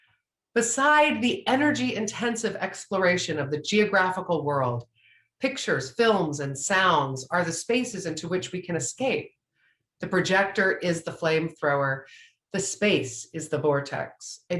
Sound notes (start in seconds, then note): none